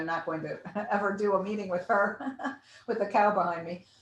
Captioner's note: laughs